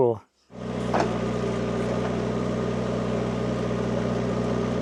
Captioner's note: engine rumbling